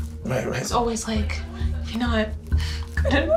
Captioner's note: sobbing